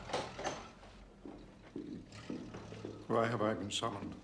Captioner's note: Pintu terbuka; Langkah kaki